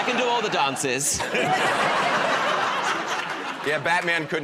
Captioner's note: laughter